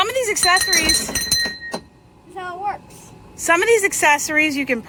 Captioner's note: bell dings